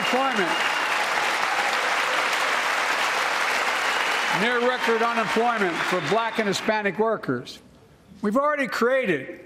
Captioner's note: cheers and applause